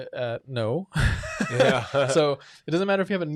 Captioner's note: laughing